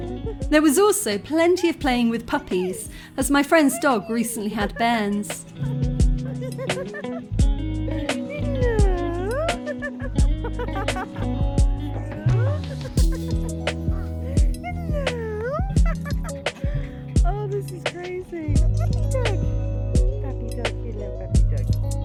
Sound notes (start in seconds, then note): 5.9 chill music; 13.6 laughing